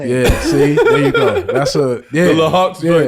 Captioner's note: laughing